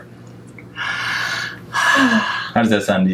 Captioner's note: sighing